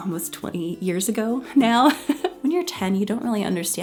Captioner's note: laughing